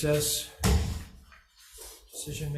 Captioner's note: gavel banging